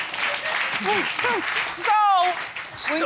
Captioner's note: applause continues